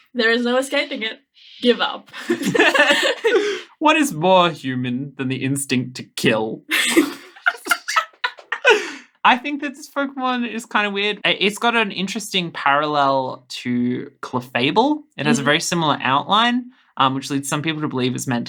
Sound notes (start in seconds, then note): 2.1 laughing; 6.7 laughing